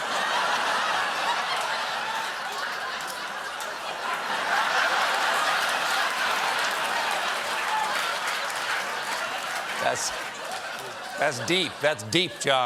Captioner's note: laughter